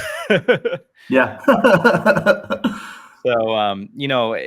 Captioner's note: laughs